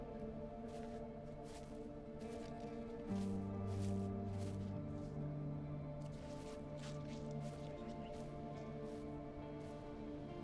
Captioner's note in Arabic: خطوات بطيئة